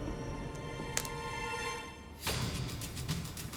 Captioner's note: click